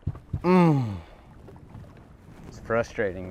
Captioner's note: grunts